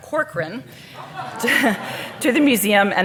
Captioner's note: audience laughing